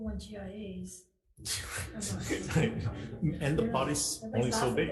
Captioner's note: all laugh